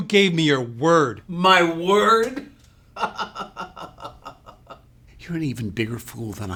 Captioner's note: chuckles maniacally